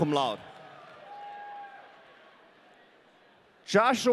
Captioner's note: audience cheering